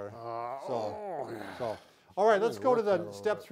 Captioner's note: groans